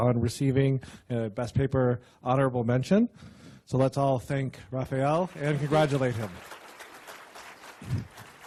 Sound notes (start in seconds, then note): 6.8 applause